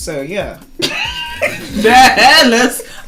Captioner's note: laughs